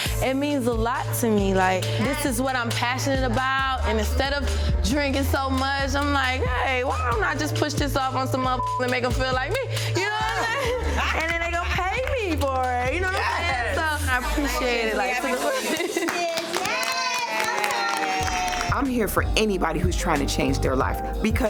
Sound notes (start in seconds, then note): 8.5 beep; 9.9 group laughs; 15.7 group applauds; 15.7 overlapping chattering